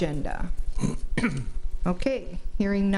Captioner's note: man clears throat